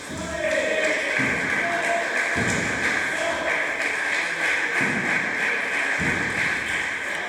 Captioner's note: applause